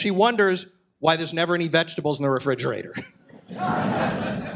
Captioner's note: audience laughs